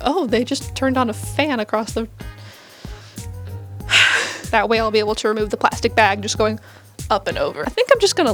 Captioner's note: aggravated sigh